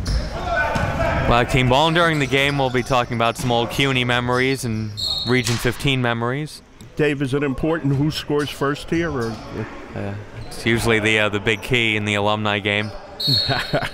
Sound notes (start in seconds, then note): 4.9 whistle blows; 13.2 whistle blows; 13.2 laughing